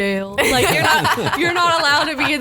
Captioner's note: laughs